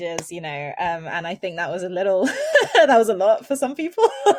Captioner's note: chuckles; chuckles